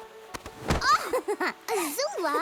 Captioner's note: laughing